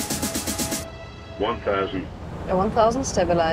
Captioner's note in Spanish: Anuncio de radio